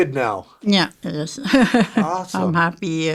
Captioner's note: chuckling